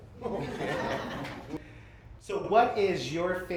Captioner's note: laughter